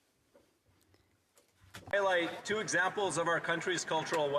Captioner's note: applause; speaking French